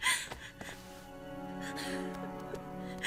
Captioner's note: sobs